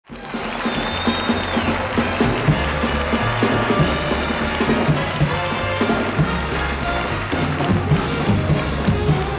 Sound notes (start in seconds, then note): 1.0 audience applauding; 1.0 upbeat music